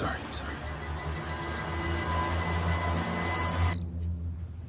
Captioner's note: beeping